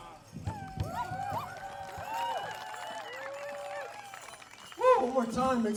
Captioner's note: audience cheering and applauding